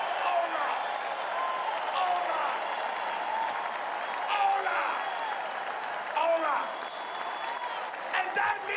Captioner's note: cheering and applause